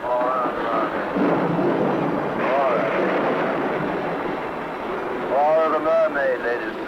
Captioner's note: thunder crashing